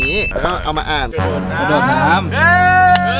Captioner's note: Pat